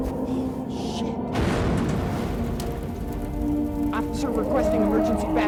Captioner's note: explosion booms